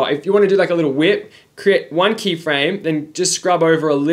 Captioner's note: none